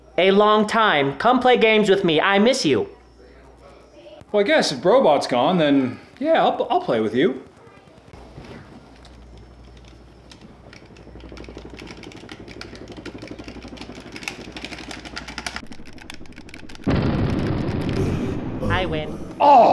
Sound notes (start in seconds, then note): 10.2 controller clicks; 11.3 guns shooting